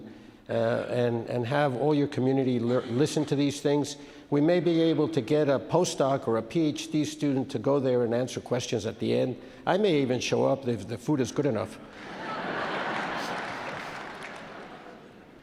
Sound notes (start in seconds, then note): 11.9 audience laughs